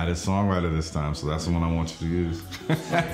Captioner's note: laughs